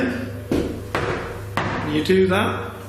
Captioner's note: knocking